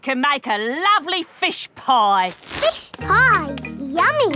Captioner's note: none